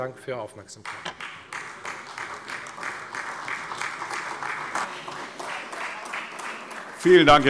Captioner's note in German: Beifall Freie Demokraten, AfD und vereinzelt CDU